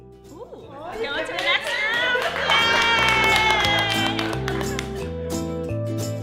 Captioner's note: cheers